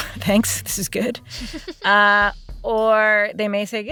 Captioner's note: laughs